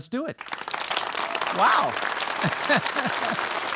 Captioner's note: audience applauding